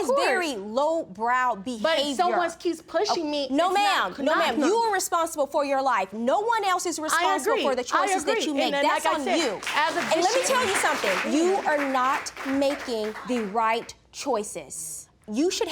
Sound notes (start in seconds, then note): 9.3 audience applauding